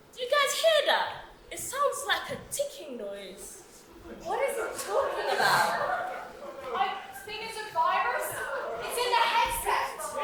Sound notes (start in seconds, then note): 4.0 audience laughs